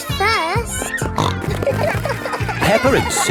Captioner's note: snorting